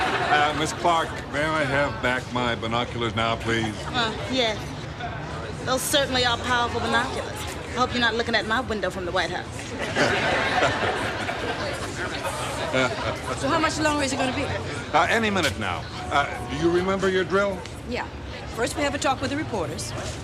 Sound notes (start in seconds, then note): 12.0 chuckling